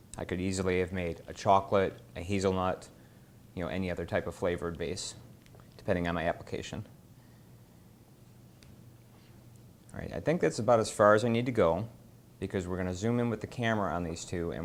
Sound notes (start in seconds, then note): none